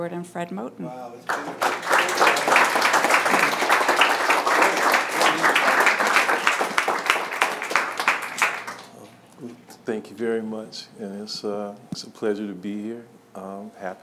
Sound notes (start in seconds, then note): 1.2 applause